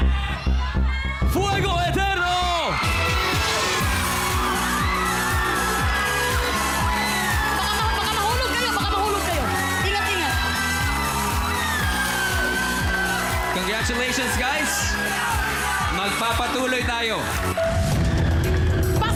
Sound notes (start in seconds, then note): 3.2 audience cheering; 3.2 theme music playing; 17.1 suspenseful music playing